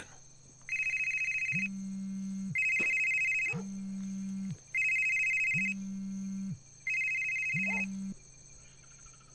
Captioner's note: phone ringing